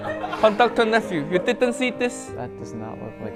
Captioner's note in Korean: 웃음